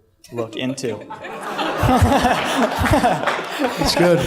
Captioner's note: laughter